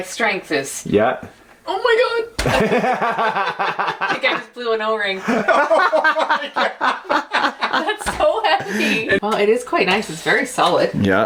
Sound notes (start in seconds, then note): 2.4 laughs; 11.1 voiceover